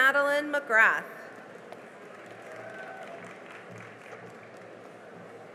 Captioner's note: cheering and applause